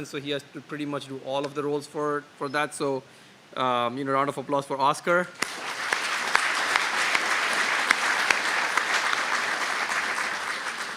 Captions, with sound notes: so he has to pretty much do all of the roles for that. So a round of applause for Oscar. [APPLAUSE]